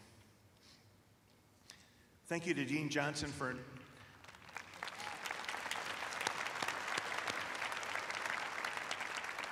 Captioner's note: applause